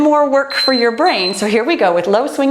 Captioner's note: timer beeps